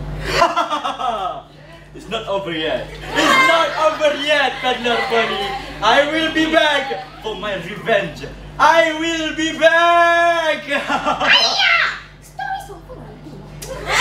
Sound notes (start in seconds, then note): 2.9 laughs out of nowhere; 10.4 laughs